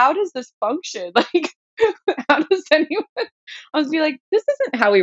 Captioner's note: laughter